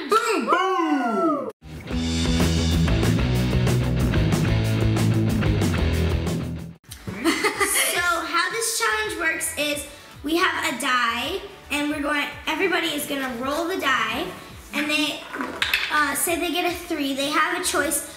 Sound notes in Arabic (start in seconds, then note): 1.7 موسيقى صاخبه; 7.0 يضحك